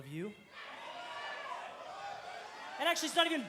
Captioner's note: cheers and applause